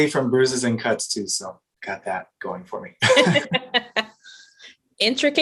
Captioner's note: laughter